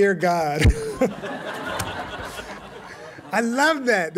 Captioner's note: laughter